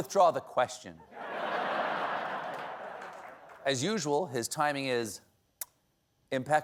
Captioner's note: laughter